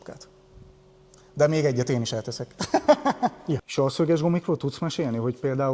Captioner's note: laughter